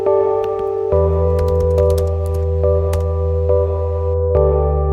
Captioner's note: keyboard Typing